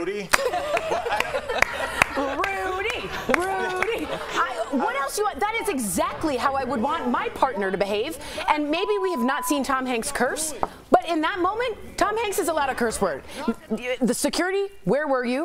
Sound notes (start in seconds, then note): 3.6 applause